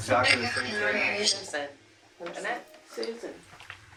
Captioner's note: box whispers